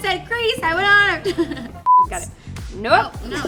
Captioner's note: laughs; beep